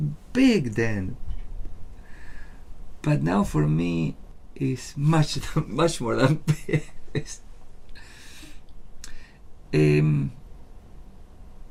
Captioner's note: laughs